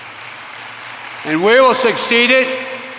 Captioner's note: applause